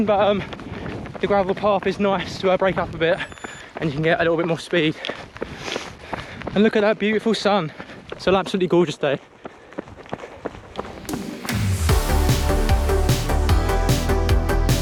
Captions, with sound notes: but the gravel path is nice to break it up a bit and you can get a little bit more speed and look at that beautiful sun. It's an absolutely gorgeous day. (gravel crunches) (upbeat music)